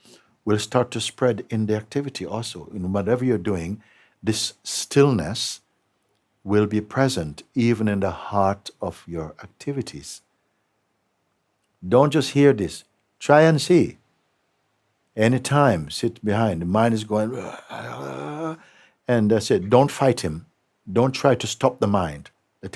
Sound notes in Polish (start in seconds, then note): 17.3 robi ryczący hałas